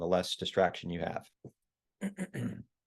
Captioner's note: cough